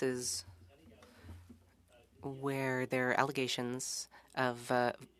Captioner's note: speaking French